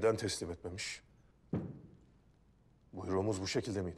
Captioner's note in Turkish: Baston vurma sesi